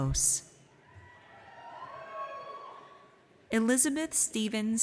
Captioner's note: audience cheers